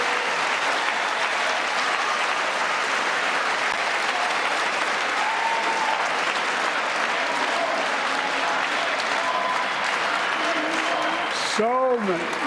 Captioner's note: cheers and applause